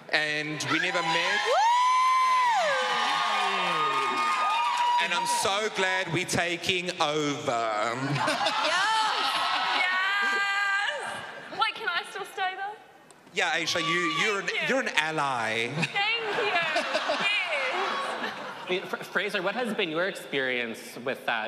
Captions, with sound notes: And we never met. [audience cheering] And I'm so glad we're taking over. [audience cheering] Yes. Wait, can I still stay, though? Yeah. You s-- you're-- you're an ally. Thank you. Yes. Fraser, what has been your experience with that?